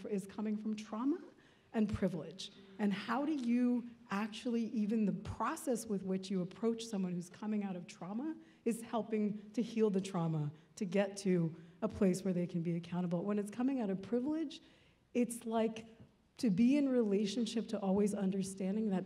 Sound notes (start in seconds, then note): none